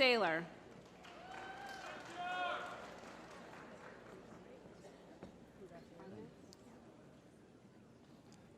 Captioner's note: applause